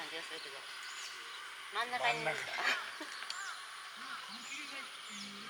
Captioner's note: laughs